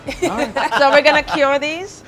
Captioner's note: laughing